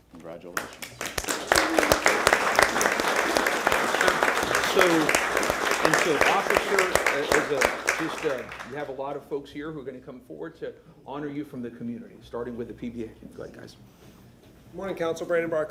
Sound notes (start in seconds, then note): 4.4 applause